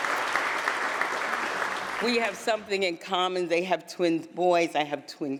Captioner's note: applause